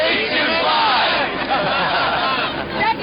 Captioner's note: laughs